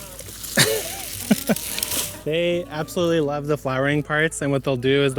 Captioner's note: laughs